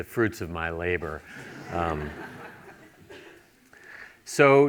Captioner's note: laughter